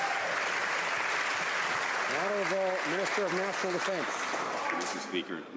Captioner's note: some Applause